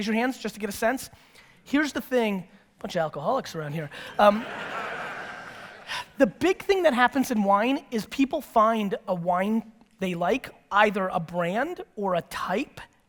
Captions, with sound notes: raise your hands, just to get a sense. Here's the thing-- Buncha alcoholics around here. (audience laughter) The big thing that happens in wine is people find a wine they like, either a brand or a type,